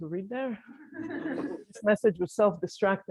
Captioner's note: laughter